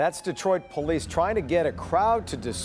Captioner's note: siren